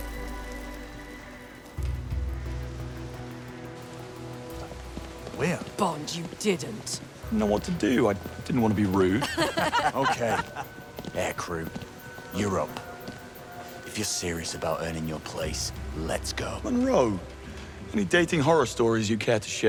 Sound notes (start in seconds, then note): 9.2 laughter